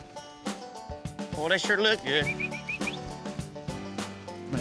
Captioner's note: whistling